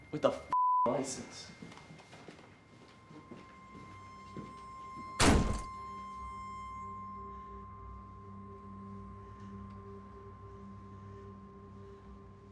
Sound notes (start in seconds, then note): 5.2 door slams shut; 6.8 piercing high-pitched tone over ominous electronic music